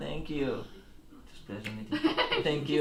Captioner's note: laughing